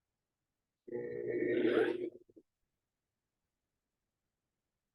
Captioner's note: mixer whirring